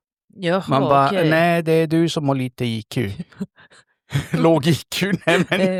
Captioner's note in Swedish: skratt